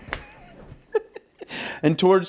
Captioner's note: laughing